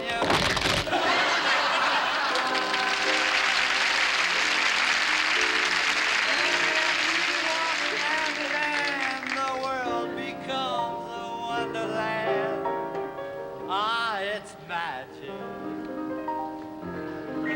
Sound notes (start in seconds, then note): 0.8 laughter; 3.0 applause